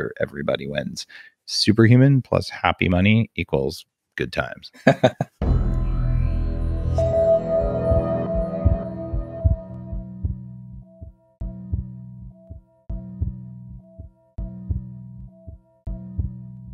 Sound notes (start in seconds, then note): 4.7 laughs; 5.4 techno music; 7.8 heart beating